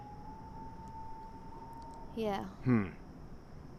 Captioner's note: animals whooping